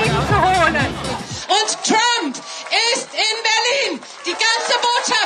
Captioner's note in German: laut